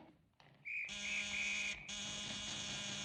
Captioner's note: whistle Blows; doorbell Buzzing; banging On Door